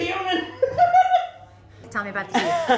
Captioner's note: laughs